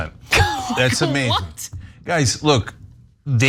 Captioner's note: laugh